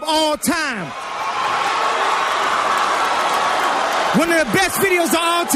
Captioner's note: audience applauding